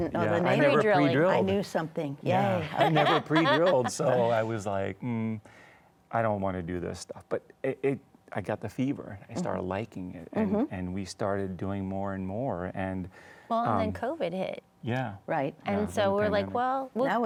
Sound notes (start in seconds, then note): 2.6 laughs